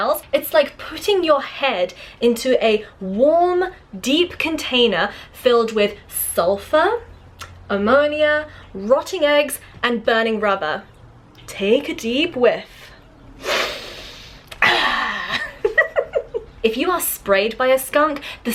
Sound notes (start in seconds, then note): 14.5 giggles